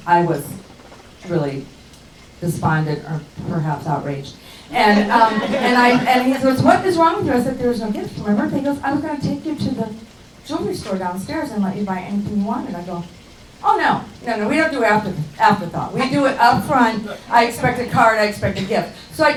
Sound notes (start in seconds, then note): 4.6 laughing